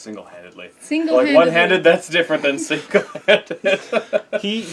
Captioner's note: laughing